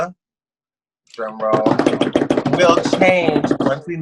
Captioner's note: bangs on table